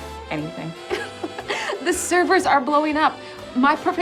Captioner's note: giggling